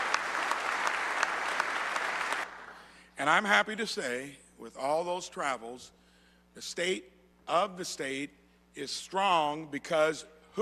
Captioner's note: applause